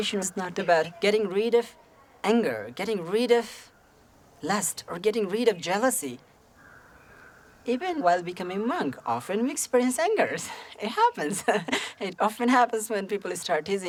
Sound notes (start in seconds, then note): 11.2 chuckles